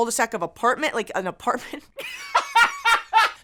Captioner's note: laughs